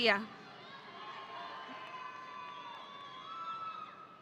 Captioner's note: audience cheering